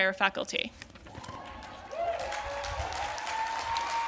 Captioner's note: applause